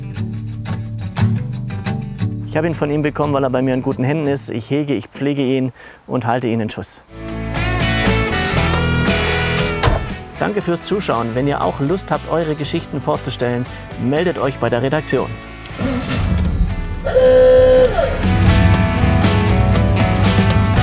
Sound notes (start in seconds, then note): 0.0 casual music; 17.0 honk